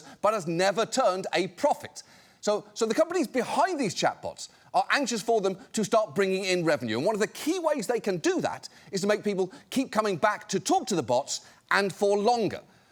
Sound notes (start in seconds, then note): none